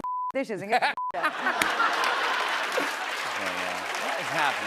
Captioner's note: laughter